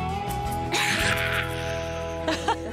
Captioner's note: laughs